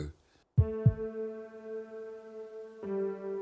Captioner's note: heartbeat